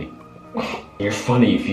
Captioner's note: scoff